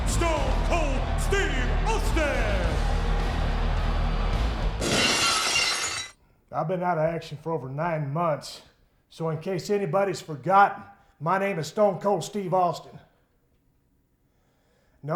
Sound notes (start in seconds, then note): 2.7 audience cheers; 4.8 glass shatters